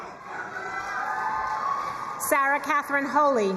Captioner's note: crowd cheering and applauding